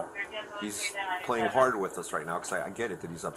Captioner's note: radio chatter